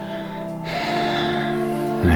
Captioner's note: sigh